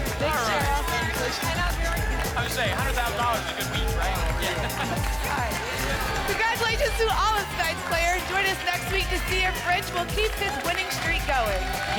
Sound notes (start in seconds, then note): 4.6 applause and cheering cont